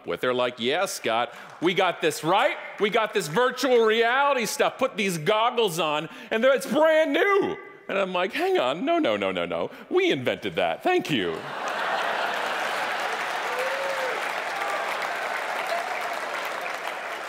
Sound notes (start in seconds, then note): 11.3 audience laughing; 11.4 audience applauding